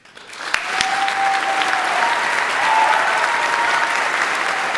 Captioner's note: audience applauding; audience cheering